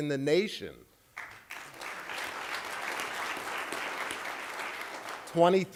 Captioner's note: applause